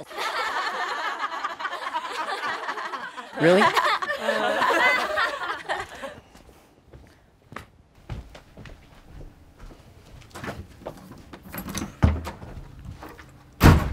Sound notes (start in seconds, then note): 0.0 laughter; 4.6 laughter continues; 8.0 footsteps